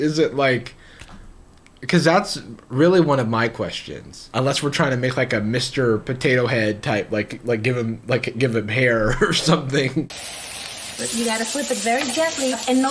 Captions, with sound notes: Is it like, because that's really one of my questions. Unless we're trying to make like a Mr. Potatohead type, like give him like give him hair or something. (food sizzling) - You gotta flip it very gently.